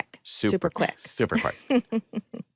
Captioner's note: chuckles